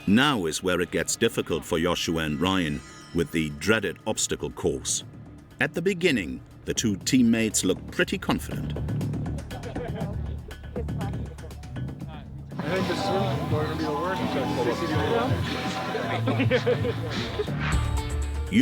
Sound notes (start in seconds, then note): 9.0 dramatic music continues; 9.4 members laughing; 15.4 both laughing